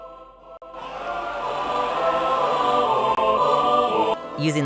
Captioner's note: crowd yells